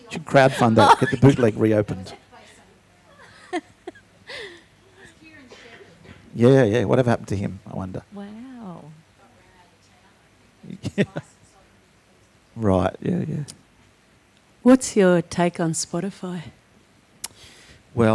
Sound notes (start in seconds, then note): 3.1 laughs